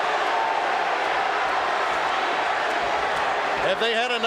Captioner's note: audience cheering